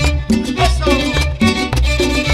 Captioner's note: salsa Music; speaking in Spanish